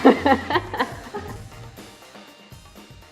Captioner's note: laughs